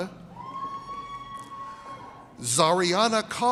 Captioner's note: audience cheers